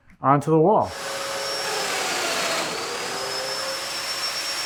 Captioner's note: equipment whirring